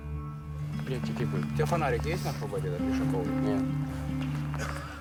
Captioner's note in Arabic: الصوت المنطوق الأوكراني